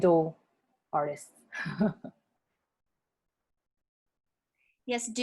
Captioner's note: laughter